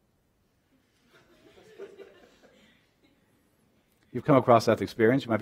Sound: laughter

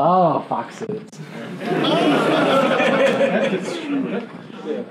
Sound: laughing

